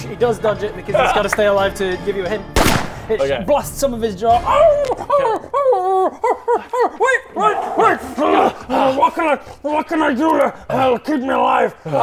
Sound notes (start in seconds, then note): 2.6 bang!